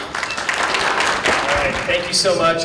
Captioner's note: applause